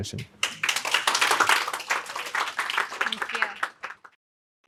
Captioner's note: audience clapping